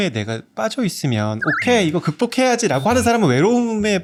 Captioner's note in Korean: 익살스러운 효과음